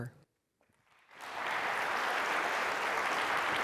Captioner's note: applause